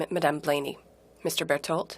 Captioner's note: speaking in French